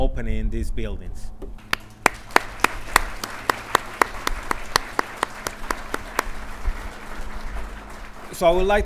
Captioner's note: clapping